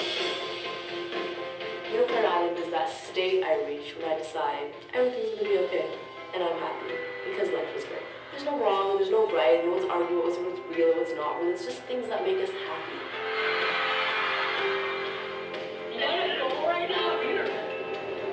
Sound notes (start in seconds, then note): 0.1 uplifting music; 12.6 cheering crowd